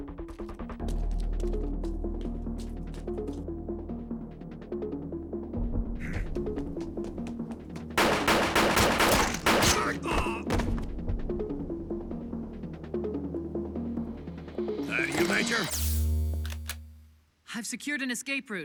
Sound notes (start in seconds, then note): 7.9 gunshots; 9.6 groans